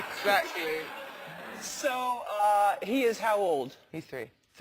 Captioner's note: laugh